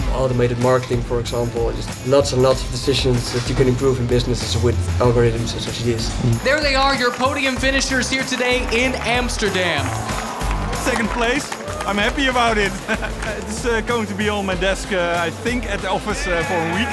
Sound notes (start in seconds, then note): 8.9 cheering